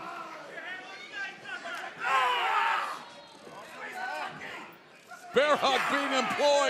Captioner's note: crowd chatter